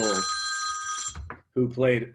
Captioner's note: phone rings